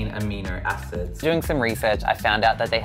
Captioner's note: voiceover